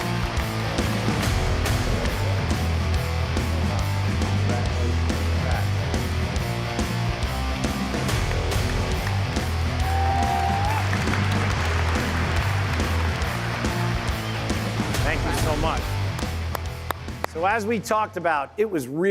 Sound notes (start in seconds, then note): 2.4 applause